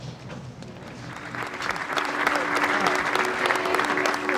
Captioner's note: applause